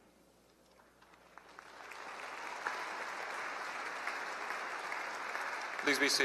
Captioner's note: applause